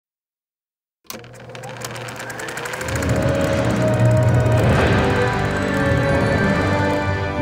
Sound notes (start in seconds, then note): 1.1 projector whirring